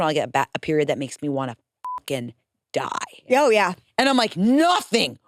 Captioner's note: beep